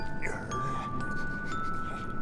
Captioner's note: grrr